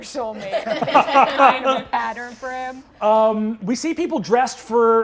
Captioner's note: all laughing